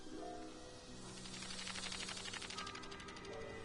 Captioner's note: threatening hissing